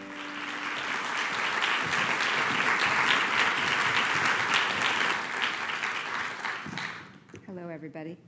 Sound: applause

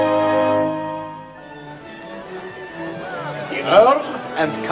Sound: chatter

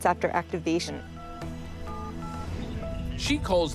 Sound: dial tone

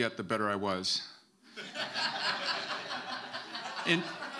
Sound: audience laughing

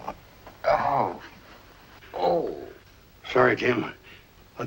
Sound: Jim grunting

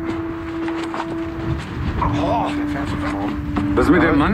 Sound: strong wind

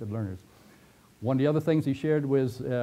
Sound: pause

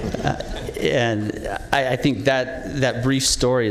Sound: laughter

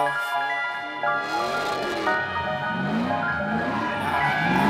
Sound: engine roaring

